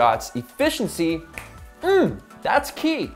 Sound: snaps

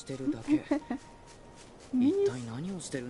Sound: laughs

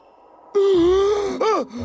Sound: gasp!!!!sddcwsz

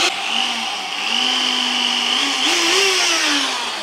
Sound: drill sound

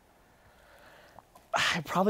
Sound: sighs

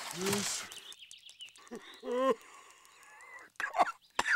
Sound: wheezing; coughing

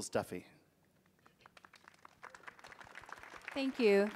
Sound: audience applauding

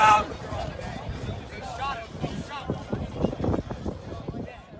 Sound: crowd chattering

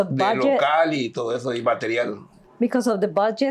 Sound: speaking in Spanish

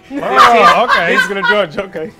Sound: laughs

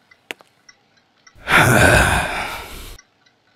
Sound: sighs

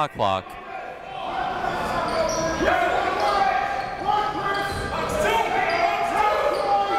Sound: crowd talking; coaches yelling

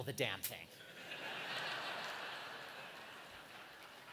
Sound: laughter

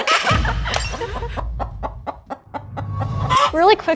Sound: laughter; clucking chickens

